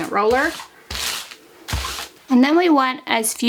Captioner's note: paper rustling